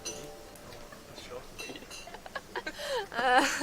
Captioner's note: chatting, laughter